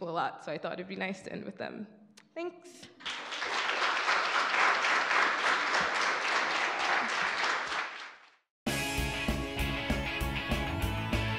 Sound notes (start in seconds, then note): 2.9 audience claps; 8.7 upbeat music